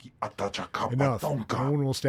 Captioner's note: speaking foreign language